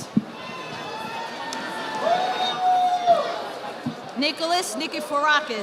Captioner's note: audience applauding